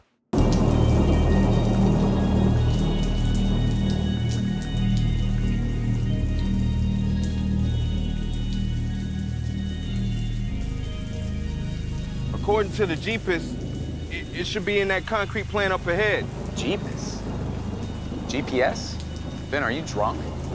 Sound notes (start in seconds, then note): 1.0 dramatic music; 6.2 water dripping